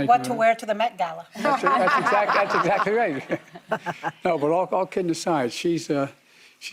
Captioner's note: laughter